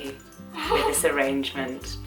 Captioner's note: laughter